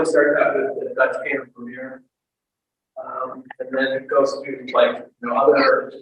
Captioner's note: audio breaks